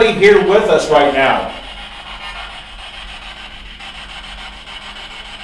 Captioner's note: static buzzing